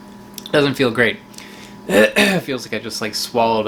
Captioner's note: coughs lightly